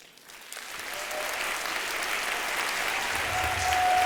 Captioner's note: applause